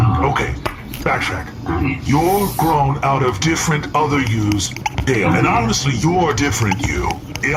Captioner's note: scribbling on tube